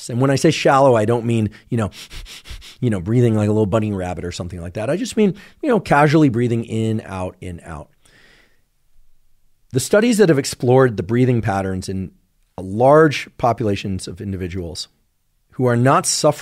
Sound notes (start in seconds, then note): 1.9 inhales shallowly